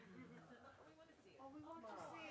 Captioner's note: voiceover